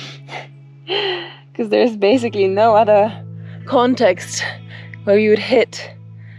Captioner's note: laughs